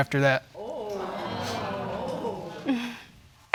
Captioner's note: audience exclaiming; laughs smugly